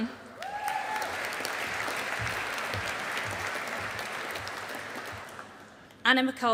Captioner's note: audience applauding